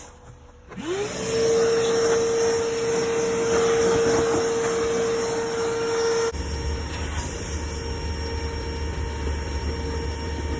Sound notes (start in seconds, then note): 4.7 vacuuming out the car with a ShopVac